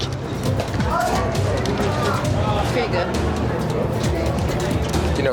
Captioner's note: staff chattering